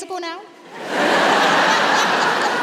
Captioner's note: laughter